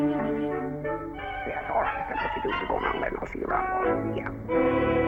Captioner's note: muttering